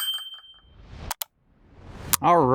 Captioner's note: bell dings